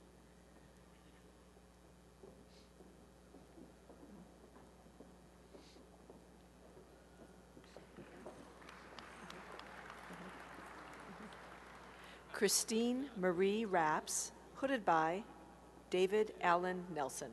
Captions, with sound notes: [applause] Christine Marie Raps, hooded by David Alan Nelson.